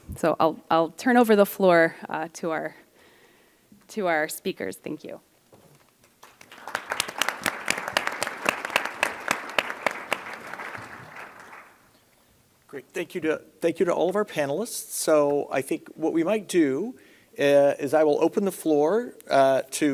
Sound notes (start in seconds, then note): 6.1 applause